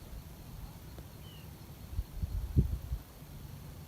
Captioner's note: birdsong in background